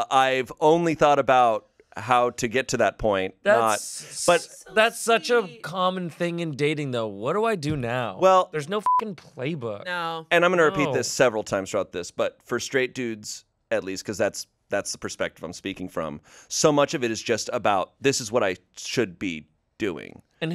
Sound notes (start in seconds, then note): 8.8 beep